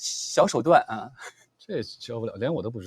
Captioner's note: laughs